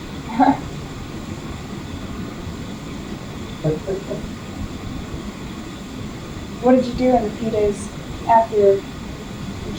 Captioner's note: laughter